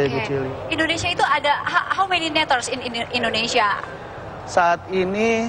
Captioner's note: non-english